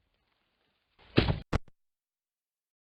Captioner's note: thomp